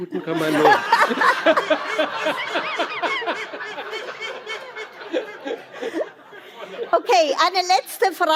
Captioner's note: laughter